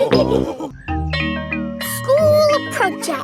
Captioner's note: school bell rings